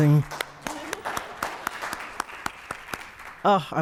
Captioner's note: applause